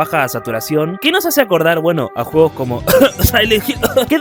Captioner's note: cough